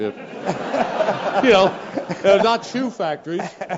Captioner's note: laugh